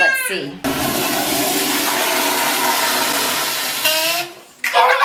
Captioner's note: toilet flushing; fart; children laugh